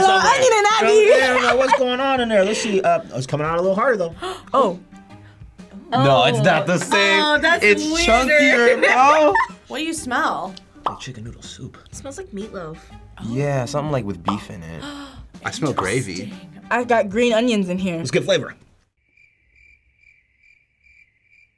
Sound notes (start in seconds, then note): 14.8 gasping; 16.2 bubble popping; 19.0 crickets chirping